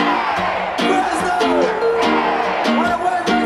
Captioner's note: crowd